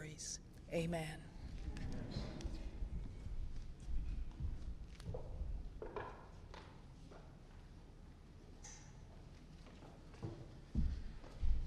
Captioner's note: heels Clicking